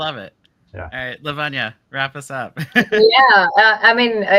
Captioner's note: laughs